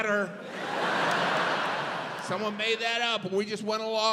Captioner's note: audience laughs